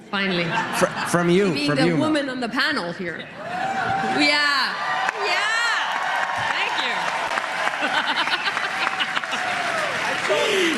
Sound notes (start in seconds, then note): 0.9 applause; 8.8 cheering and Applause